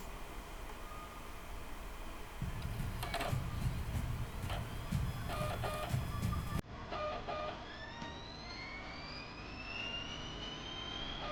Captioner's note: movie playback